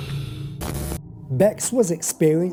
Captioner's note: static zapping